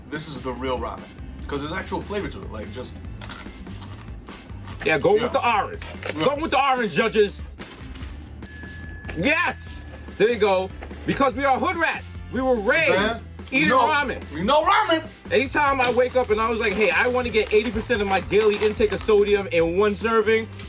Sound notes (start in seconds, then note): 3.2 crunches ramen; 8.4 bell dings